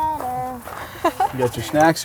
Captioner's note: laughs